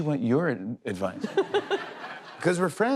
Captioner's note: laughter